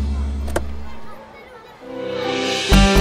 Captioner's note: Car door opens